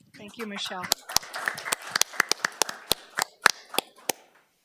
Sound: audience clapping

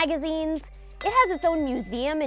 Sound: bell tinging

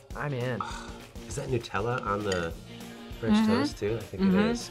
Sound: sighs

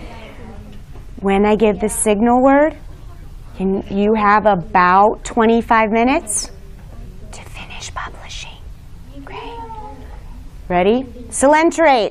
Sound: students talking; whispering

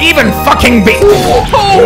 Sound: explosion that vaguely sounds like fuck

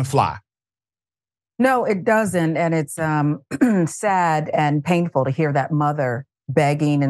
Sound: cough

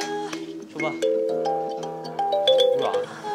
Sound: ddororong ddororong

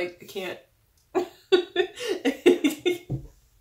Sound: laughing

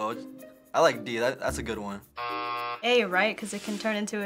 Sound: buzzer

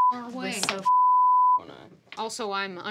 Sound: beep

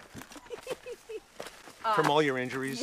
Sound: Lindsey laughs

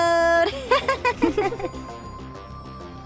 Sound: giggles

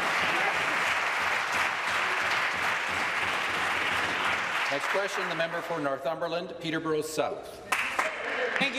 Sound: applause

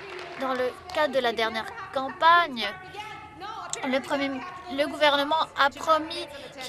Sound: some Applause

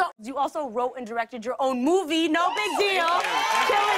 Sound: cheers and applause

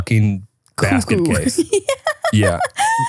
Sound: laughs

